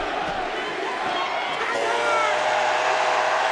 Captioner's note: crowd cheers